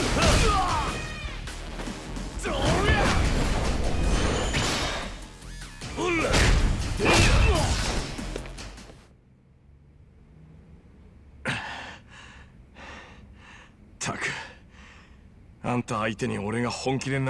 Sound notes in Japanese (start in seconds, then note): 11.4 ため息; 11.5 息をのむ音